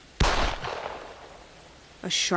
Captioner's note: gunshot